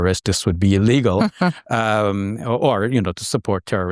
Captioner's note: chuckling